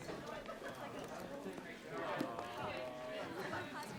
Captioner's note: students chattering